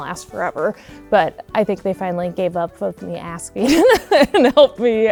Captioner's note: laughs